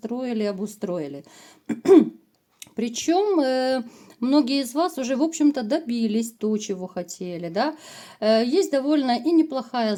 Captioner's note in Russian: откашливается